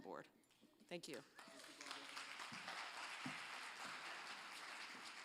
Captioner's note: applause